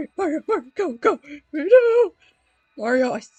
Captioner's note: panicking in gibberish